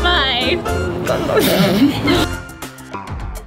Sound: laughing

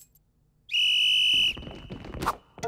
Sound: whistle blowing

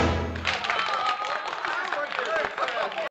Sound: applause

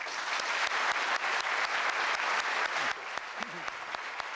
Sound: applause

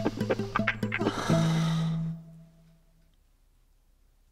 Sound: exhales

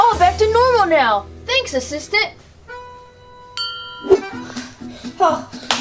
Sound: bell dings

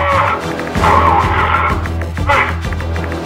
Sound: speaks Imagined language

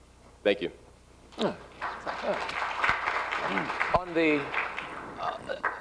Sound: applause

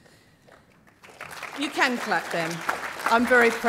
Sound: applause

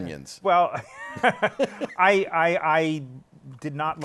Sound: laughs

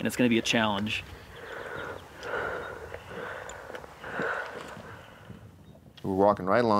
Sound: labored breathing

